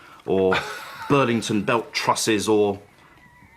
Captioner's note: chuckling